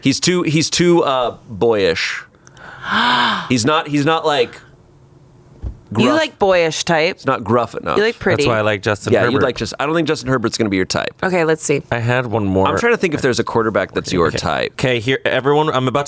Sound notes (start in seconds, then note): 2.5 gasps